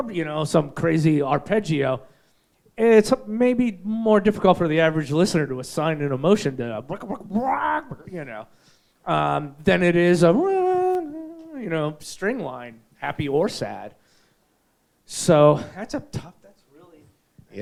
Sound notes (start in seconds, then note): 6.8 imitates electronic music; 10.5 sings note